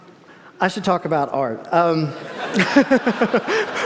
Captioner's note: laughter